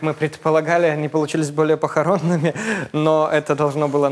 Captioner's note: chuckles